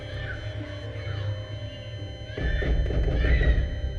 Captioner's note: heart rate monitor flatlining